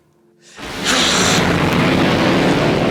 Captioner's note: woman hisses